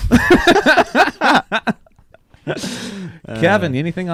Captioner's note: laughing